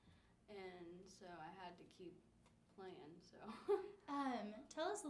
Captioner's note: laughs